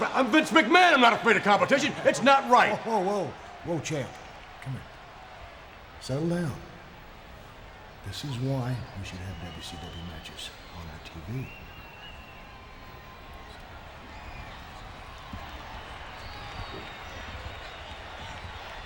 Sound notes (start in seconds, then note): 12.3 Stone Cold whispering